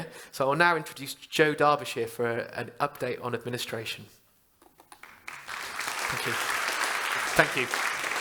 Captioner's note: applause